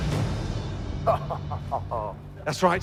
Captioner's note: laughs